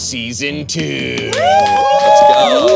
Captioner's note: all cheer